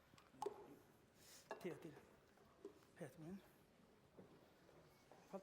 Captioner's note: non-english speech